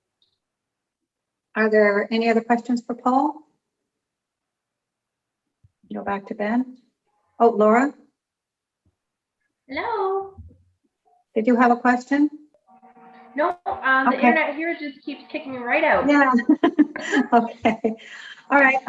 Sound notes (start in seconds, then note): 15.8 laughing